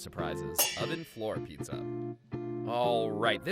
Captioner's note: metal clangs